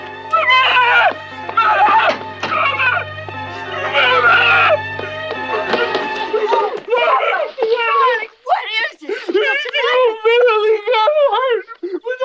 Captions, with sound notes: - Mama! Mama! Mama! Mama! - Bubba, what is it? (Bubba whimpering) - Marylee got hurt,